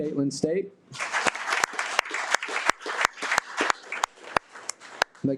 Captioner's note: audience applauding